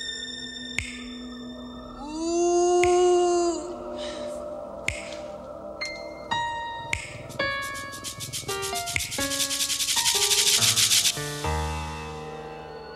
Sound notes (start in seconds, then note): 2.9 finger snapping; 2.9 surreal music